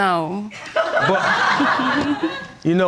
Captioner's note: audience laughing